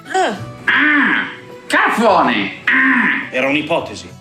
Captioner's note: squawking